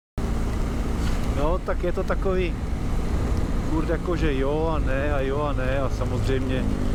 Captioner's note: rain